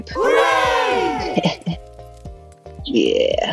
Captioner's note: crowd cheers “hooray”